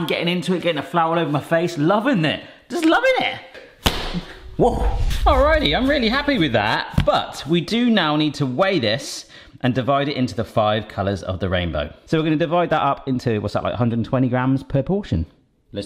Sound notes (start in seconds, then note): 3.8 dough slams; 4.0 air whooshes